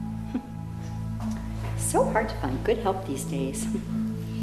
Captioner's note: cheerful voice